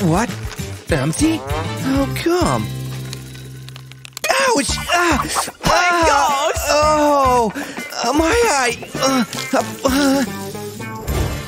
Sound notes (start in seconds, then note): 4.2 moaning; 9.5 yelling